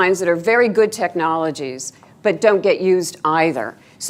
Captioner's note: none